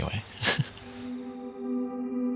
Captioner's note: laughs